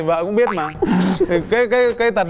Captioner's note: laughing